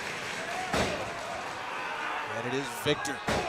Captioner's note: crowd chatter